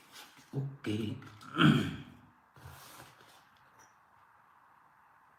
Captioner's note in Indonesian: berdehem